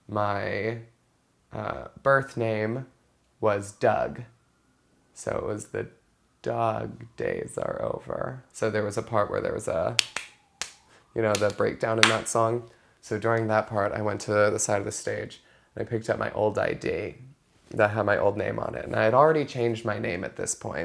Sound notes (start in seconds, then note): 11.3 clapping